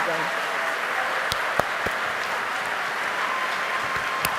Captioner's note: applause